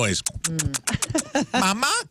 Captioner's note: kissing